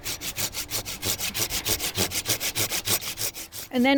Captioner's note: sawing branches